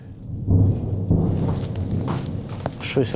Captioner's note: sounds of explosions